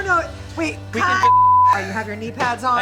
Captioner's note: screen beeps